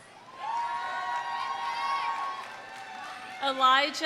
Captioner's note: audience cheering; audience applauding